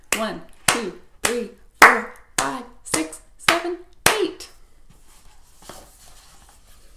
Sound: claps

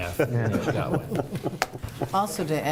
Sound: laughter

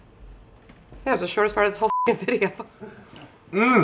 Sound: beep

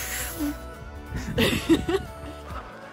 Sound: laughter

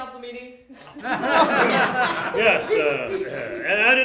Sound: crowd laughter

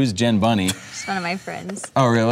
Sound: laughing

